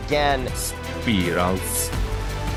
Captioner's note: Robotic voice